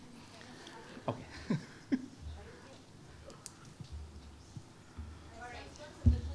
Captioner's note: chuckles